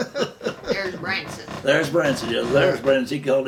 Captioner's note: laughing